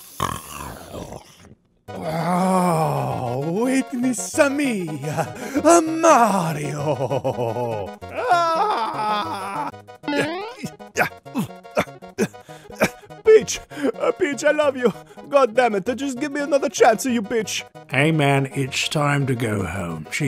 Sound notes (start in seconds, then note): 7.3 Mario screaming; 8.2 upbeat music; 10.1 Mario grunting